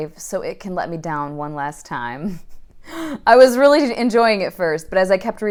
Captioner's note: laughing